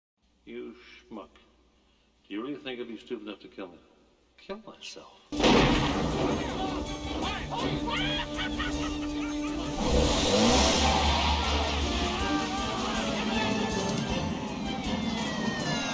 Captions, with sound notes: - You schmuck. You really think I'd be stupid enough to kill myself? kill myself? (gunshot) (engine roaring)